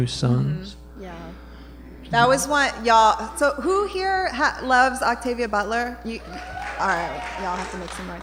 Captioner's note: applause